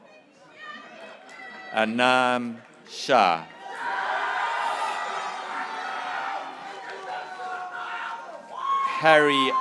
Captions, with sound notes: Esra Eunhae Park, (graduates cheering) Shania Nitesh Patel,